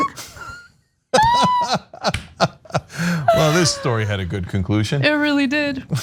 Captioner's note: laugh